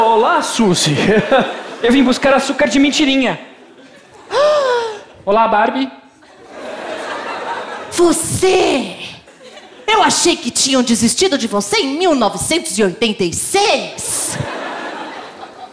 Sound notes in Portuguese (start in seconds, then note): 4.3 suspiro